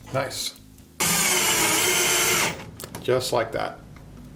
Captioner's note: drilling